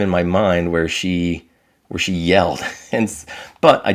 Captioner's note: chuckling